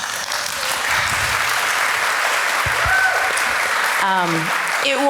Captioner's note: audience cheers and applause